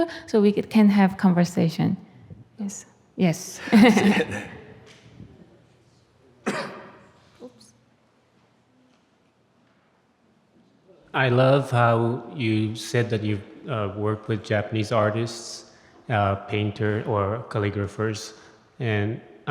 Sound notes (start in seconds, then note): 3.6 laughs